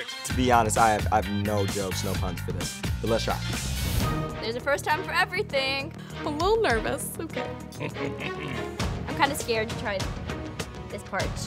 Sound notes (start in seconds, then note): 7.6 laughing